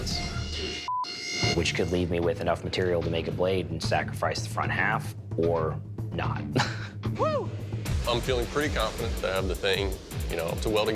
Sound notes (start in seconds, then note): 5.8 laughs